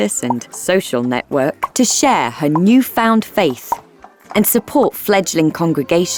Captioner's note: none